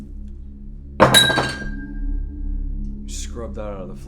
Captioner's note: glass clangs